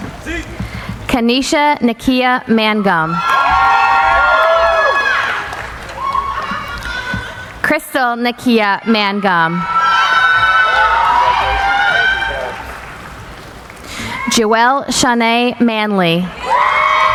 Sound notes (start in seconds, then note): 3.0 cheering; 8.8 cheering